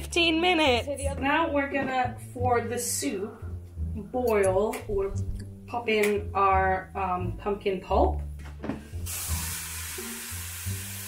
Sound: big sizzle

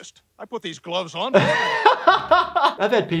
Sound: laughing

